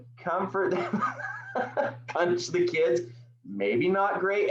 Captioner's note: laugh